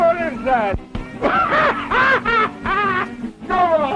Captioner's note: blow thuds; Mose laughing